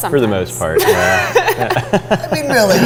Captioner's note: laughing